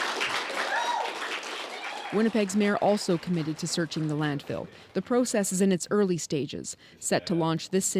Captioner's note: applause